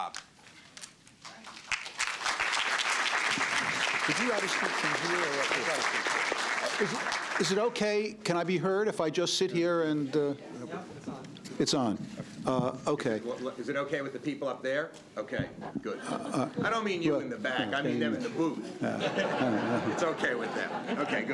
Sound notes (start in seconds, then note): 1.2 applause